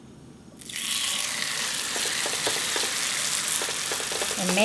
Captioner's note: sizzling